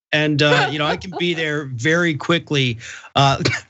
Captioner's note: laugh